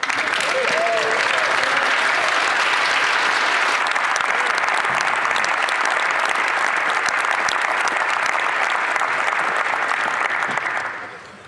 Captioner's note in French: voix de l'interprète